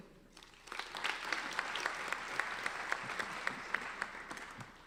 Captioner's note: applauding